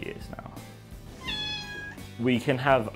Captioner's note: loud meow